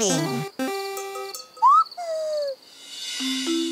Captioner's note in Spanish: pía